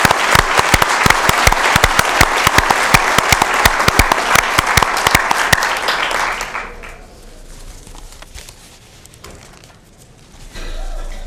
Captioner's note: applause